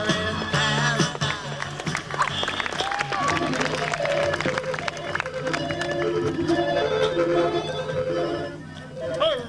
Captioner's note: time travel noises